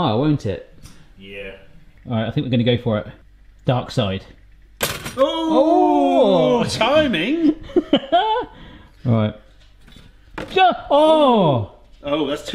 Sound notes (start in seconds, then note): 5.1 both exclaim; 7.2 laughs; 11.2 shouts